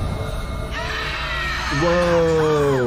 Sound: eagle screeching

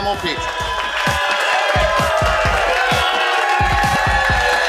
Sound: audience cheering

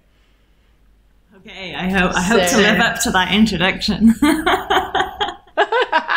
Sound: laughs; laughing

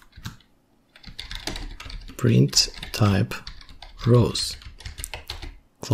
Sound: typing

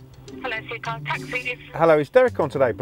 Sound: phone ringing

